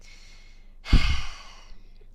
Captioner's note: exasperated sigh